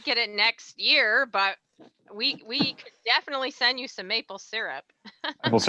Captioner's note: laughs